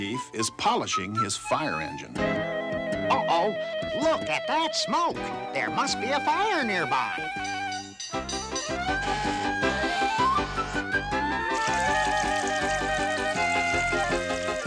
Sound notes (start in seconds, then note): 7.7 bell clanging; 8.5 fire truck siren wailing